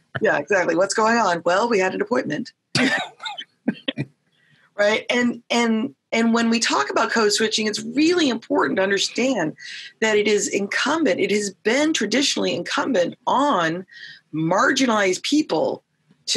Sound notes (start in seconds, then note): 2.8 both laughing